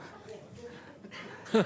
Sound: laughter

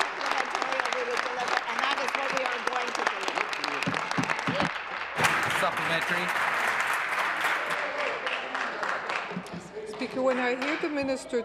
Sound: applause; voice trailing

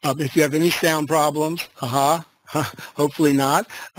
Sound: laughs

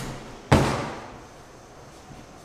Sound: thud

